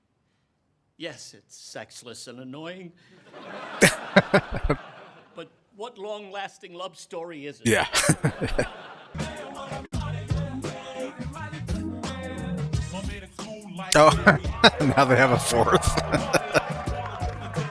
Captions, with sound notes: [Chuckling] Yeah. [Chuckling] Oh. Now they have a fourth. [Laughing]